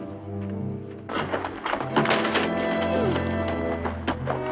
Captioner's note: wood cracking